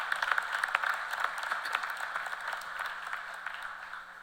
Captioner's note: cheers and applause